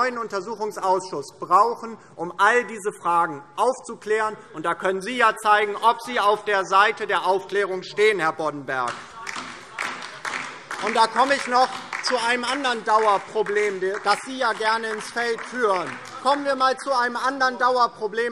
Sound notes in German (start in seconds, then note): 8.8 Beifall : Verfassungsschutzbericht!